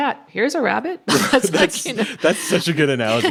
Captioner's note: laughs